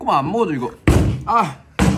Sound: bang

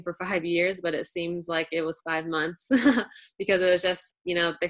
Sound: chuckles

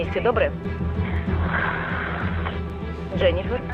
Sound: woman 1 breathing heavily

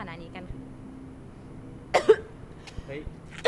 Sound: cough

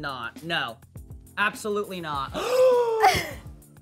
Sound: gasps

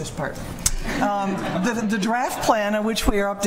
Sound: laughter

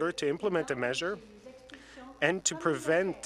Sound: speaking French

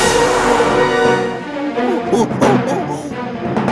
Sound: monkey noises

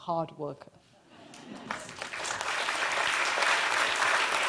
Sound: applause

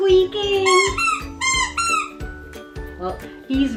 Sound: squeaking

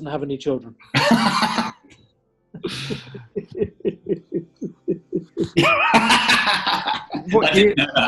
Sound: laughing and chuckling

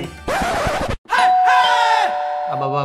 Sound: door bell rings

